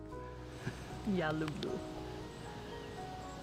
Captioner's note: speaking in Russian